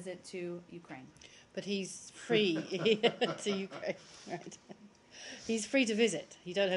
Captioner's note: laughter